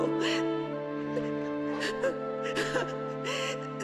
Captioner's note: sobbing